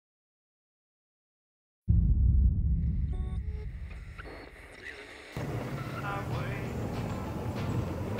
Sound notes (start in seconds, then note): 1.9 dramatic rumbling music; 2.9 static on radio; 5.8 upbeat country music